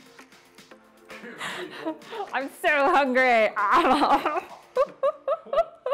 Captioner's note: makes eating noise